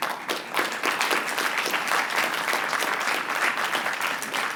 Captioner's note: applause